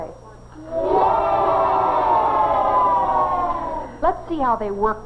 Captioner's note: mildly enthusiastic cheering